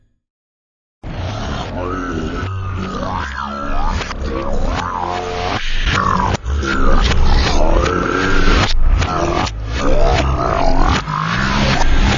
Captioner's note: it's just garbled audio playing in reverse on a loop